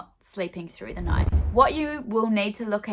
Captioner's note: swooshing